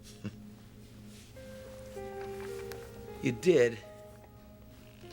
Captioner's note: chuckling